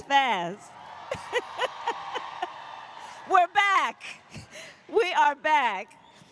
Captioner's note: applause